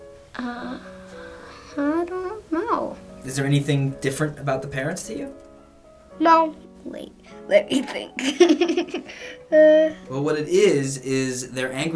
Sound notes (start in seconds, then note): 7.7 giggling